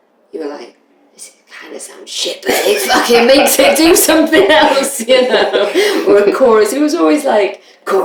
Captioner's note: laughter